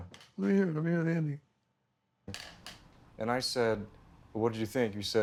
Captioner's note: none